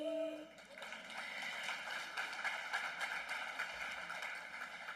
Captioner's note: applause